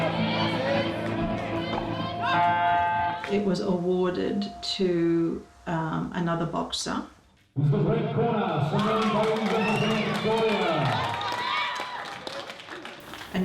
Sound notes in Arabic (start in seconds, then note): 2.3 الجرس; 11.3 تصفيق